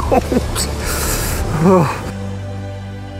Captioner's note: panting